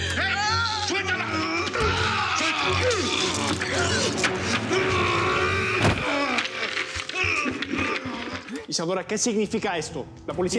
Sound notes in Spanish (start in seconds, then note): 0.2 gritos; 4.1 quejidos